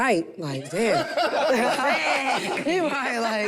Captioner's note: group laughs